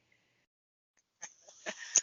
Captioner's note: laughter